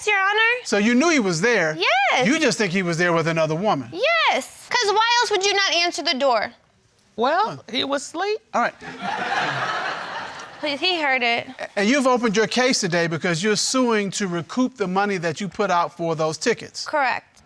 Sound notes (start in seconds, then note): 8.8 crowd laughs